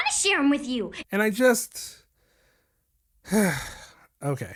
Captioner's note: sigh